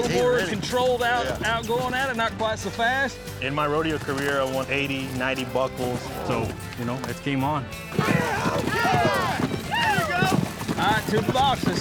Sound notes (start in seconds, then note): 7.4 cheering